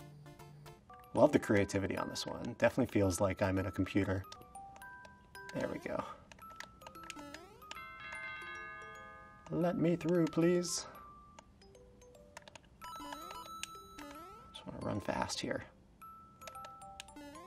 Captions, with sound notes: Love the creativity on this one! Definitely feels like I'm in a computer. There we go. [doorbell] Let me through please. Just wanna run fast here.